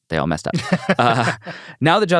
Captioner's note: laughs